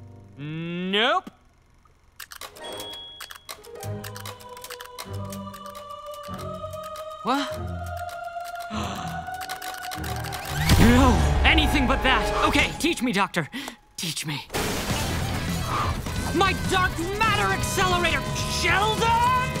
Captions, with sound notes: Nope. [clicking] Wha-? [gasping] [clicking] No, anything but that. Okay, teach me, doctor. Teach me. My dark matter accelerator! Sheldon!